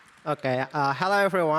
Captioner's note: applause